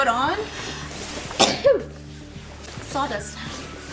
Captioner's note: sneezing